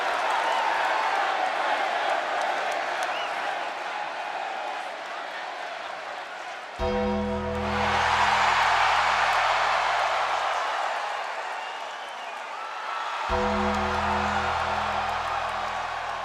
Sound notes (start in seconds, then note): 0.1 audience clapping; 6.8 ominous music; 7.1 audience cheering; 13.3 ominous music